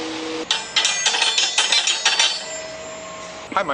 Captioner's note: ringing